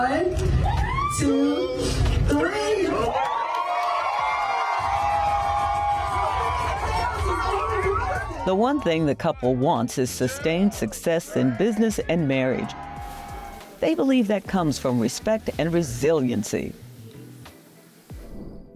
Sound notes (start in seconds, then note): 2.4 cheers and applause; 6.8 indistinct chatter